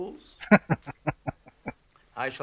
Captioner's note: chuckling